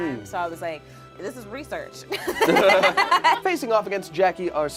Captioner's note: laughs